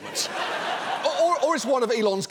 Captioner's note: audience laughing